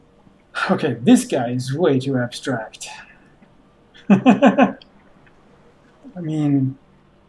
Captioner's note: chuckles